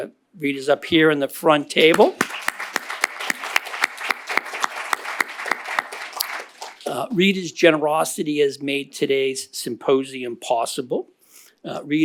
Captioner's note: applause